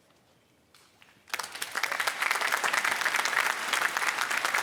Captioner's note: applause